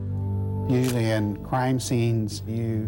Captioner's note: camera shutter click